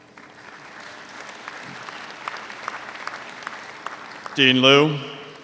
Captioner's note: audience applauds